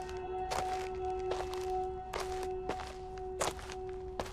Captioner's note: Jack foot falling